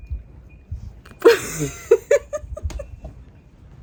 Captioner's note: laughs